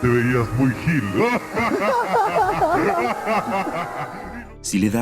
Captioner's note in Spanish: risas